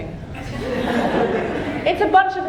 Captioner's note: audience laughing